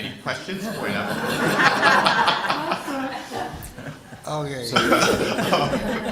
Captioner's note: laughter